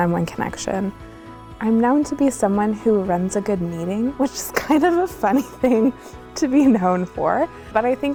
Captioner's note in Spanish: ríe